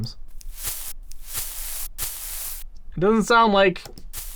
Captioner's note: pompoms rustling